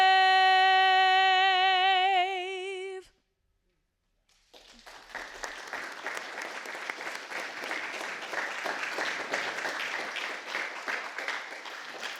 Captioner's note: applause